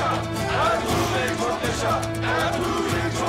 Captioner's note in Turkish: Hep bir ağızdan